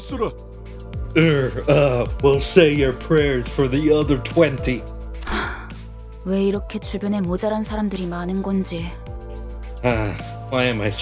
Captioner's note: sigh